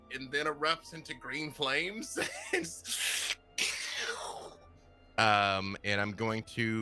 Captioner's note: mimics eruption